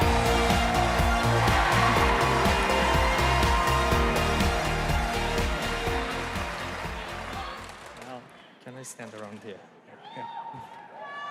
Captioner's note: cheers and applause